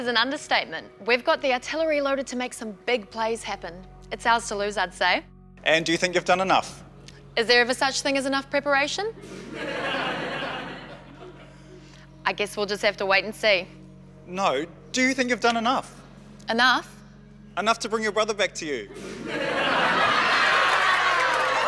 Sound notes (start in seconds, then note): 9.2 mild laughter; 20.9 raucous laughter